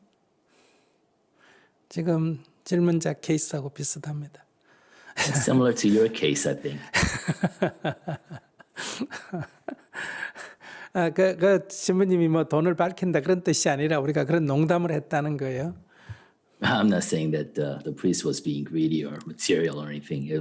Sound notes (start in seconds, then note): 8.7 laughter